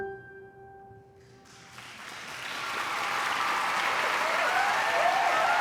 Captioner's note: cheering and applause